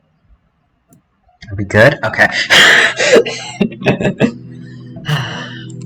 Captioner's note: laughter